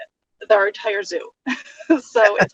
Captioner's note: laughs